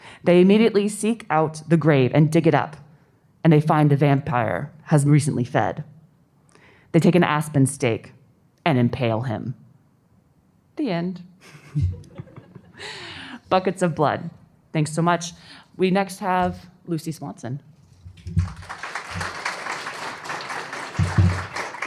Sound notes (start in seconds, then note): 11.4 laughter; 18.2 applause